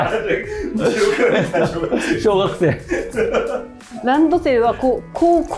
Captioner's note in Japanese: 笑い